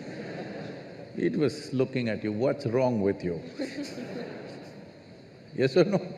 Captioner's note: laughter; laughter